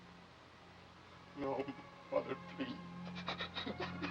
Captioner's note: crying